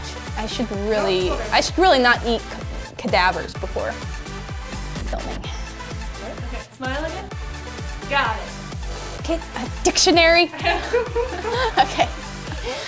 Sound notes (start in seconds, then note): 10.5 laughter